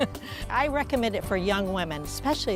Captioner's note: laughter